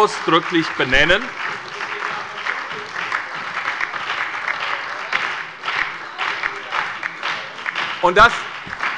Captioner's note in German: Beifall bei der SPD, der FDP und der LINKEN